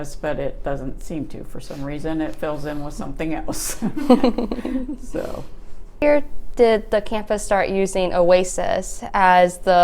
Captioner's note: laughter